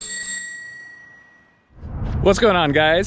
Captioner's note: bicycle bell ringing